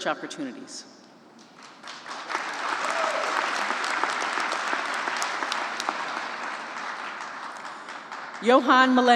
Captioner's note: applause